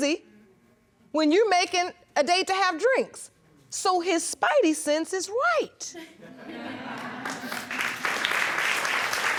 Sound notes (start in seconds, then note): 2.9 audience laughing; 6.8 audience applauding